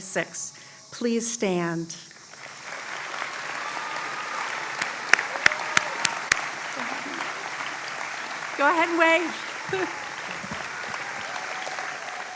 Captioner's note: applause